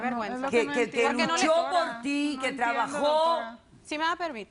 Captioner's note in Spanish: Hablan al unísono